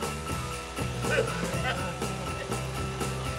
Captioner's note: Eddie vomits